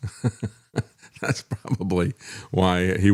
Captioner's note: laughs